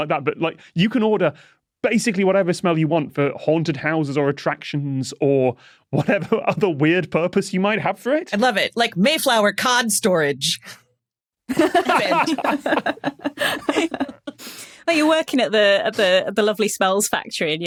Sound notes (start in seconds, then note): 11.5 group laughing